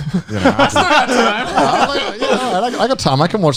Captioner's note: laughing